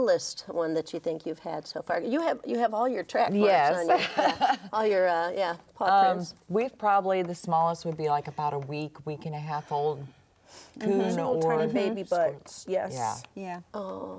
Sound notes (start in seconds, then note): 5.1 laughs